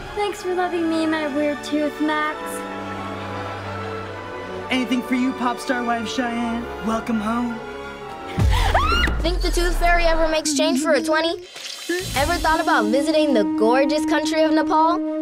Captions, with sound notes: Thanks for loving me and my weird tooth, Max. Anything for you, pop star wife Cheyanne. Welcome home. [screaming] Think the Tooth Fairy ever makes change for a 20? Ever thought about visiting the gorgeous country of Nepal?